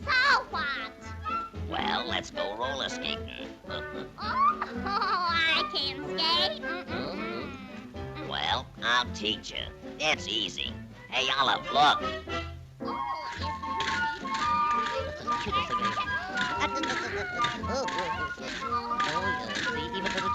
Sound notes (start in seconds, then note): 3.6 laughs; 13.2 rollerskates clacking; 14.1 bright upbeat music; 16.8 both chattering and humming